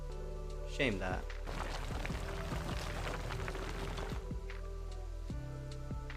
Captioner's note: gravel sounds